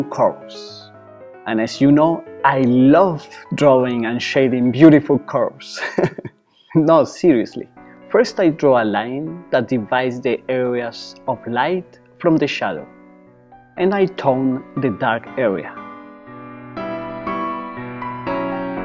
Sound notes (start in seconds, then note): 5.7 chuckles